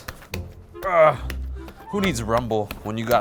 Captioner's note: exaggerated grunting